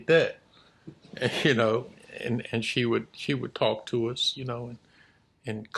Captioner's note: chuckles